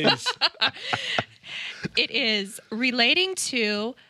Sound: all laughing

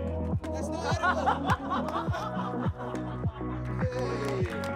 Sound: laughter

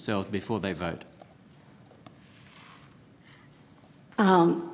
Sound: typing

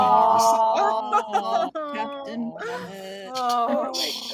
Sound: all awing

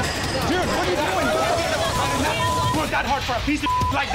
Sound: beep

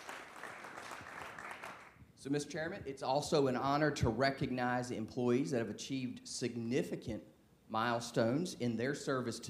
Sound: applause

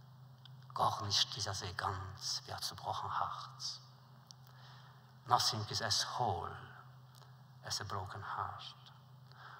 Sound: Yiddish

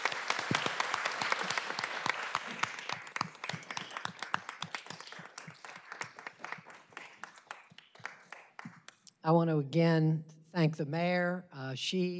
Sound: applause

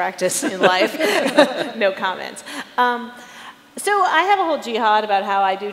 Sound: chuckles

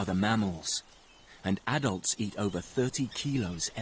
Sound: birds chirp

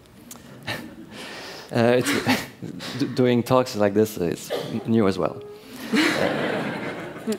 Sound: laughter

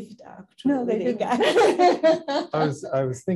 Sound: laughing

